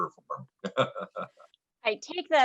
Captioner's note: laughs